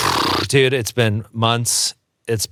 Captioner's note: lip trills